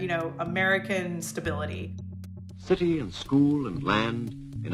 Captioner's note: soundbite of archived recording